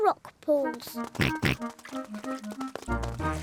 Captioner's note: oinks